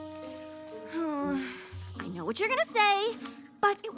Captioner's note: groan